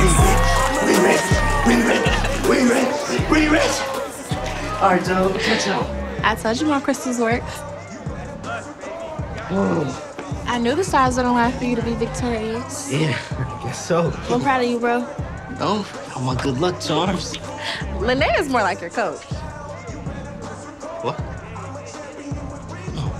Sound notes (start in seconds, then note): 0.0 heavy rhythmic music; 9.7 Kevin exhaling